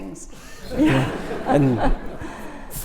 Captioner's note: laughter